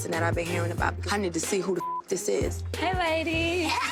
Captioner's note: beep